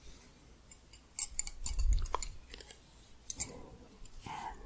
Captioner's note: gentle jingling